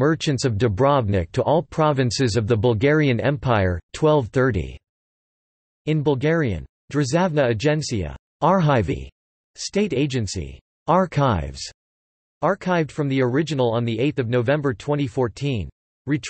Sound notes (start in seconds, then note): 6.6 in Bulgarian